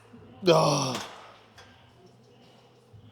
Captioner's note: exhaling; grunting